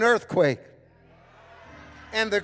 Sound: congregation cheering

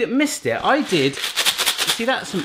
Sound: coffee beans rattling

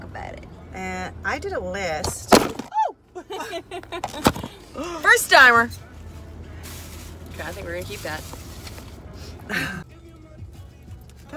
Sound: phone drops

